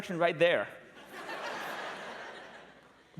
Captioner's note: laughter